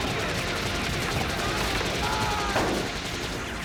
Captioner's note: screaming